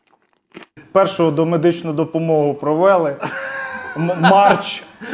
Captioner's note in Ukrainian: сміх